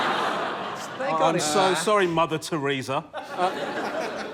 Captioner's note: laughter; laughter